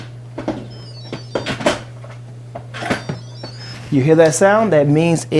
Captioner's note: cheerful beeping